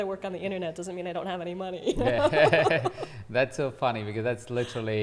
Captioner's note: laughs